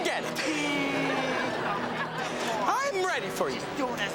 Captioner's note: audience laughs